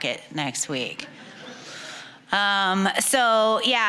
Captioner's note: audience chuckling